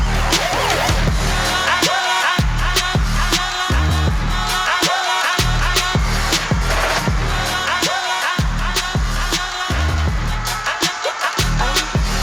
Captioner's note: crowd cheering